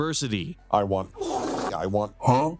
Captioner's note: big brap.wav